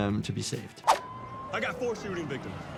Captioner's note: siren wailing